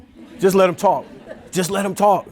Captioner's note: audience chuckling